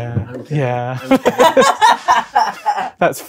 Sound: laughing

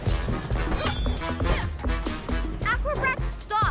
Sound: upbeat music; grunts

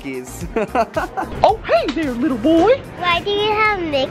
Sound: laughs; in Mickey voice

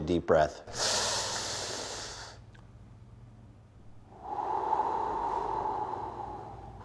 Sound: both inhaling and exhaling

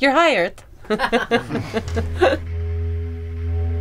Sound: laughing

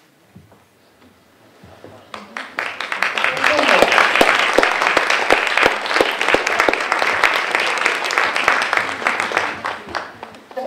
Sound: audience applause

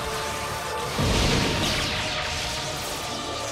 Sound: thundering

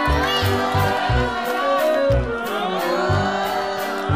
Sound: cheering

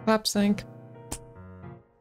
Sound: weak a$$ clap

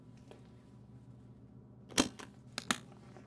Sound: locks clicking

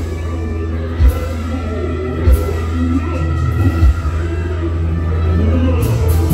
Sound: screams

